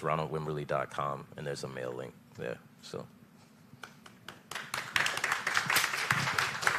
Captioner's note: applause